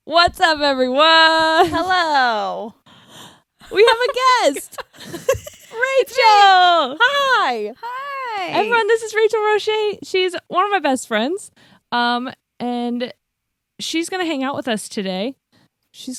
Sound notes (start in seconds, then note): 3.7 laughs